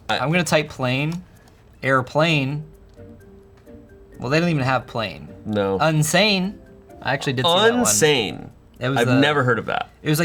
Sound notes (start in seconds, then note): none